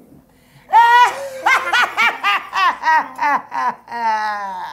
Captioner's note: witchy laughing